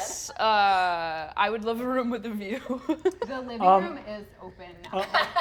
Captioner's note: laughs